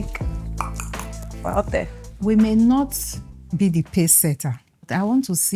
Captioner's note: clicks tongue